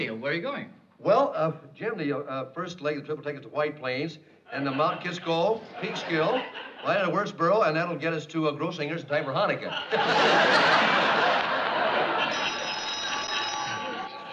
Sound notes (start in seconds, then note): 9.6 laughing; 11.0 phone ringing